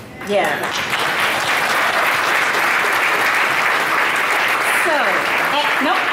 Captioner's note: audience applauds